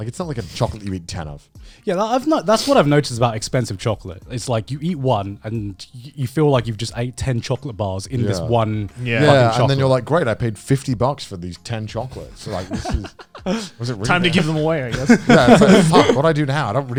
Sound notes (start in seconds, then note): 12.2 men laugh